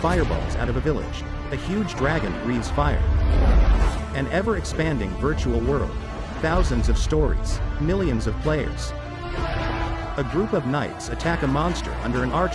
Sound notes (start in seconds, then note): 3.8 soaring music playing; 9.3 troops yelling